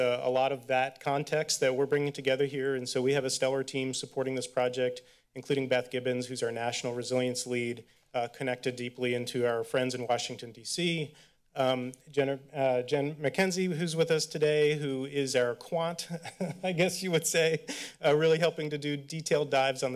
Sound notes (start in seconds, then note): 16.0 laughs